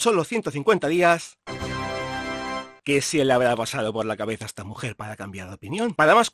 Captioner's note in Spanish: sonido de tachán